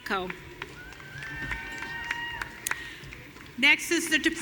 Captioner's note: audience cheering